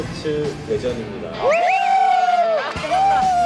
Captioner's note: cheering